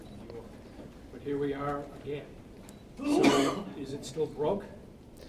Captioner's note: sneeze